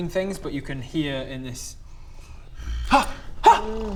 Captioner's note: low growl